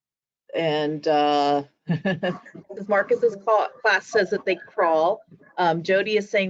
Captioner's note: laughing